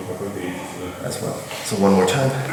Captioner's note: speaking in a foreign language